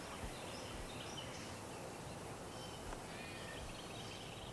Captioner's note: birds chirp